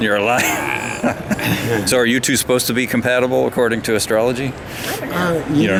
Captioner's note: everybody laughs